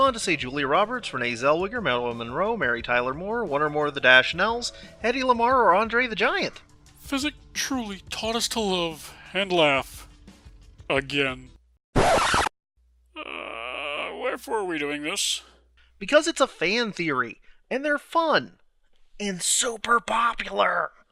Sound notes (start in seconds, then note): 11.9 record scratch; 19.3 stage whisper